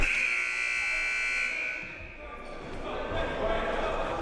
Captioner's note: buzzer